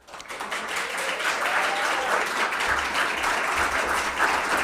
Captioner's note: audience applauding